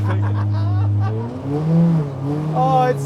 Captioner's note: laughs